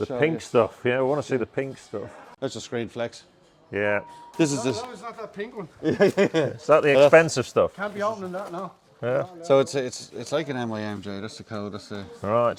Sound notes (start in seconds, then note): 5.8 chuckling